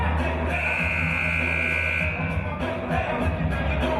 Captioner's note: buzzer